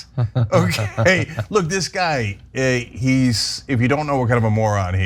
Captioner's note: laugh